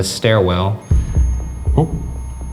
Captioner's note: REM-pod beeping